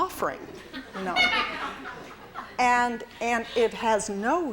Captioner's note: laughter